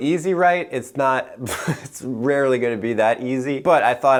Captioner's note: chuckles